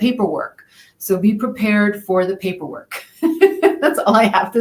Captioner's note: laughs